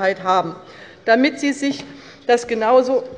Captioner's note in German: Zuruf von der CDU